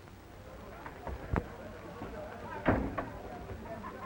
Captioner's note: people chattering